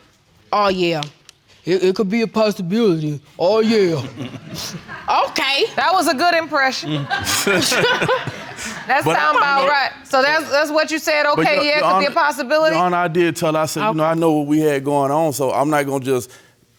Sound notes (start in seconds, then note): 6.7 audience laughing